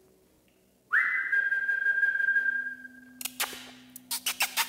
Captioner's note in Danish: fløjte- og kaldelyde til dyret